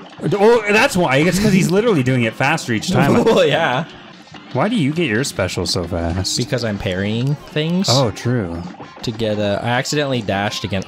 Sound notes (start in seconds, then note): 2.9 chuckle